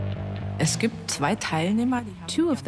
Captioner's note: in German dubbed in English